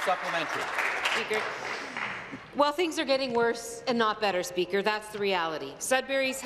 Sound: applause

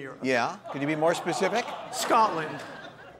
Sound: audience laughing

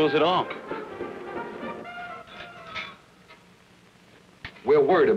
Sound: coat hanger rattles

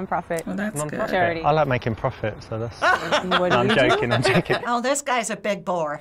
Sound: laughs

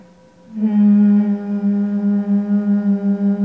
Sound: humming

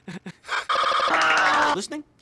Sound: wheezing and Laughing?

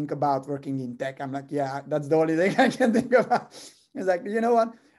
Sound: laugh

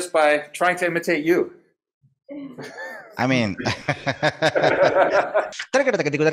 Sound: laughing

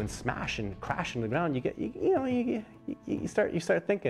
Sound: voiceover

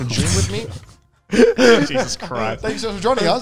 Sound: all laughing

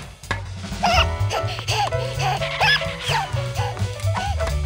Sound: panting

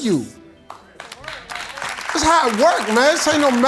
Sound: congregation applauds

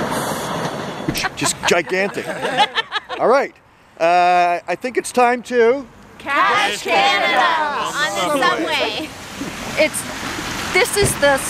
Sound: laughter

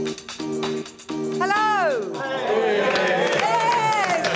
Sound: applause

